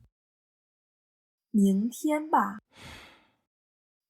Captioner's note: sigh